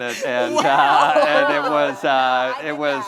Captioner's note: all laughing